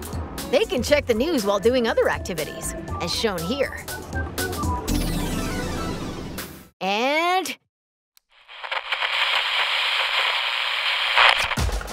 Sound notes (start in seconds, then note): 6.5 music fades; 8.3 TV static sounds